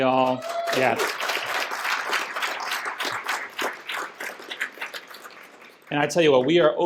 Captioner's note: applause